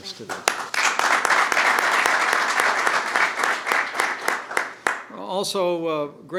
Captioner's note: applause